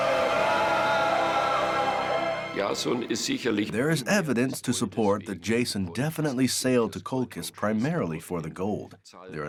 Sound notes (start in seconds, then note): 2.4 speaking German